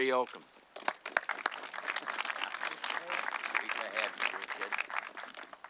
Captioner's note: audience clapping